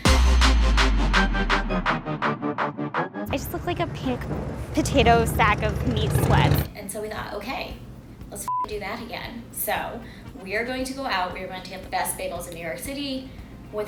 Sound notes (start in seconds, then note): 0.0 hip hop music; 8.4 beep